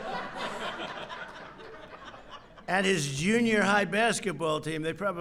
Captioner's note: laughter